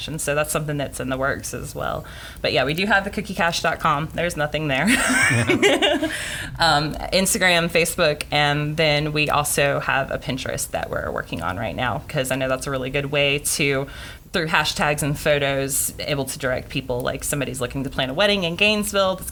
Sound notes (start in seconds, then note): 4.9 laughing